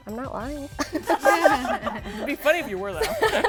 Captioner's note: laughs